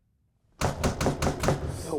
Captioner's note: knocking